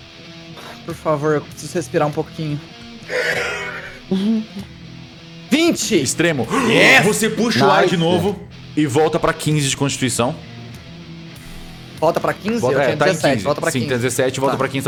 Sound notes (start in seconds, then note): 3.0 sighs; 3.3 laughter